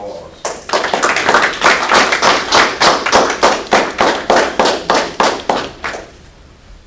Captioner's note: applause